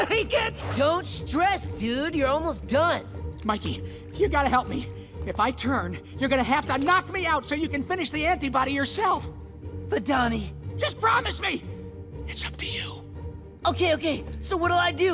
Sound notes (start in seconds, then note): none